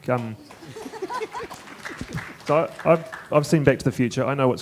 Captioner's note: audience applauding; laughing